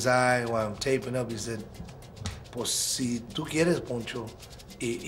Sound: in Spanish

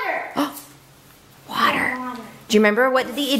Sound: gasps

